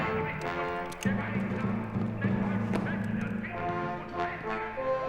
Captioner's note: speaking german